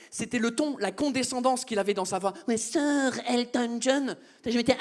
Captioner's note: mocking voice